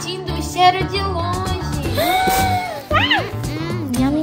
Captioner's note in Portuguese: suspiro surpreso